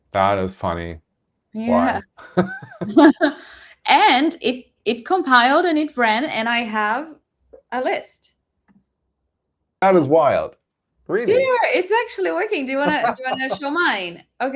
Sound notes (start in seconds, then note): 1.6 laughing